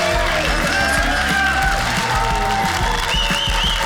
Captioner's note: audience cheers